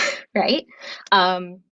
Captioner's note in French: rires